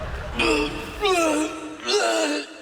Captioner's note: moaning